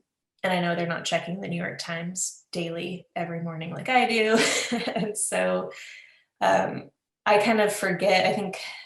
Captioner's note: laughs